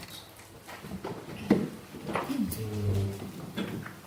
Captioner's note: shuffling sounds